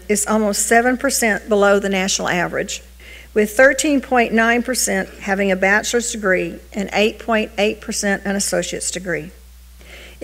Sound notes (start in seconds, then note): none